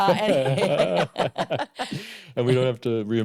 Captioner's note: laughter